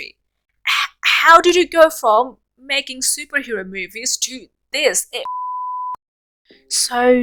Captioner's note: TV static beep